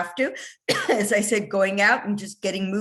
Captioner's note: coughing